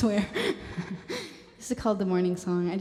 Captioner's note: laughter